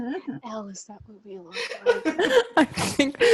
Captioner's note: LEO and HARPER laugh; whispering; laughs; whispering